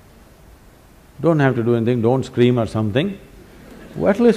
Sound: laughter; 笑聲

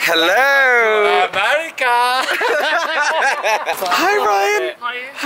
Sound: laughs

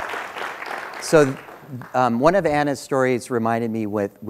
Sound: applause

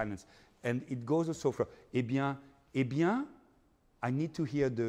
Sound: speaking in foreign language

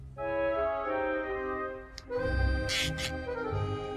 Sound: shoulders creak

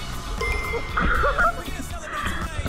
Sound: A big laugh after seeing

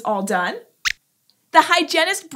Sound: squeaks squeaks

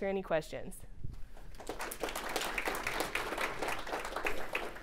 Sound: audience applauding

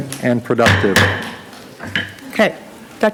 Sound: gavel banging

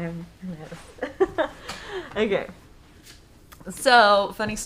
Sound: laughing

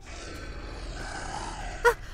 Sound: snarls

